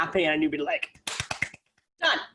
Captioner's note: claps